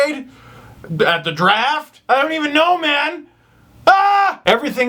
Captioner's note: screams lightly